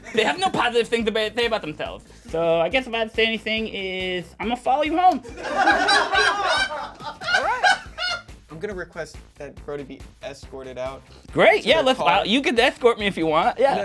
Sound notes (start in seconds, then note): 5.5 crew laughs